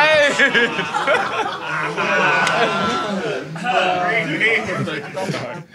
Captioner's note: audience groans; Sidemen laugh